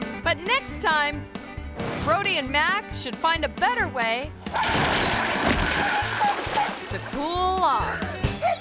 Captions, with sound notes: But next time, Brody and Mac should find a better way (table crashes) (dog barks) to cool off.